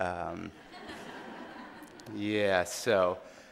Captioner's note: audience laughing